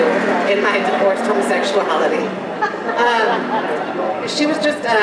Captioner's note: general laughter